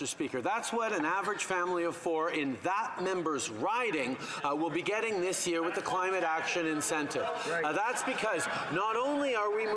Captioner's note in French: voix de l'interprète